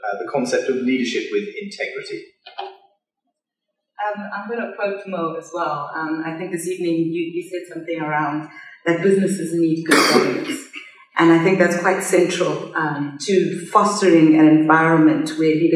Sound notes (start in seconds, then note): 9.8 coughs